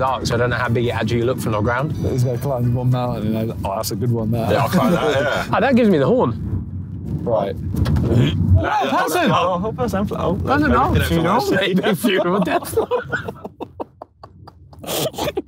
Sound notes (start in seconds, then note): 8.0 Ethan retching; 9.0 group chattering; 11.3 Sidemen laughing